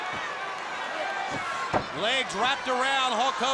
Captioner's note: crowd cheering; feet thudding